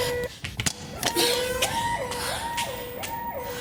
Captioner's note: Jen panting